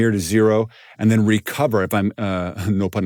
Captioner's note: laughs